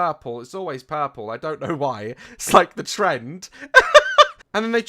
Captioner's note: laughs